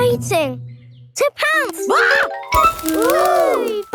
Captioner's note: screams